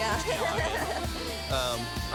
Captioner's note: nervous laughter